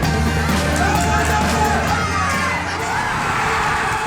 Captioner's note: the audience chants at the stadium